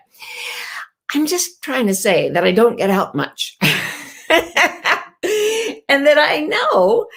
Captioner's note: laughing